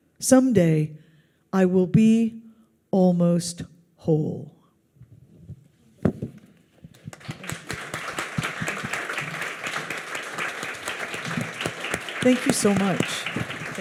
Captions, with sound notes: Someday, I will be almost whole. (audience applauds) Thank you so much.